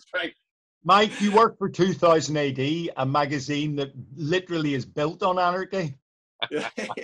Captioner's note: all laugh